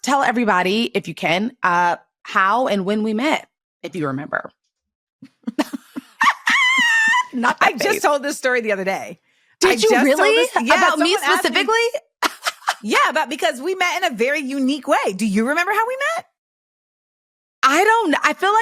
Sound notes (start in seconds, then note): 5.3 laughs